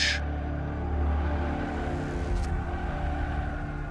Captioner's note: agitated crowd roars